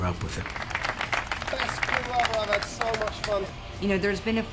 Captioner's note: crew applauding